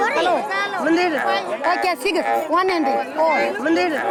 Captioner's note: mixed chatter